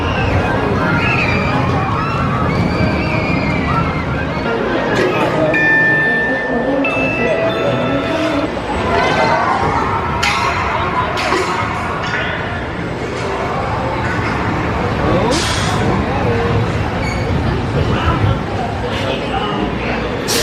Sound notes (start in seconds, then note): 0.0 screaming on the ride; 5.6 magical ding